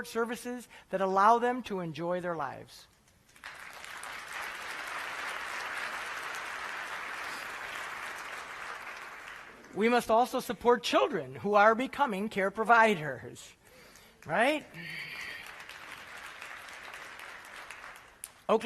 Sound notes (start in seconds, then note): 3.0 applause; 14.7 applause